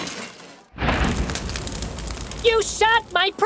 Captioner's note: glass breaking; explosion